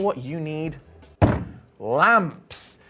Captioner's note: bangs table